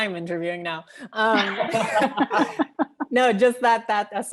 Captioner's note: laughing